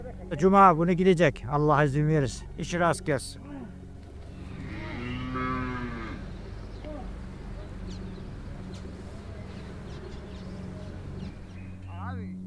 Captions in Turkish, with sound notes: Cuma günü gidecek Allah izin verirse. İşi rast gelsin. [İnek Sesi] [Kuş Cıvıltıları] "50 Yıllık Çobanın Dağlardaki Son Sürüsü"